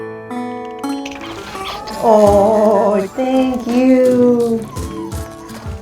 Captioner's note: smacking lips